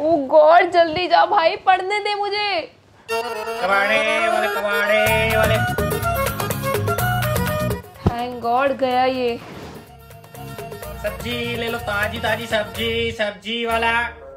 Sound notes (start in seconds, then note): 3.7 shouting; 10.4 vegetable Itinerant Shouting